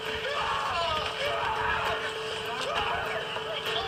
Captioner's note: screaming